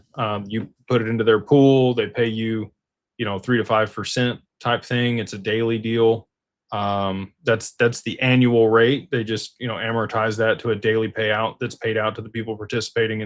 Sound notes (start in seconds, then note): none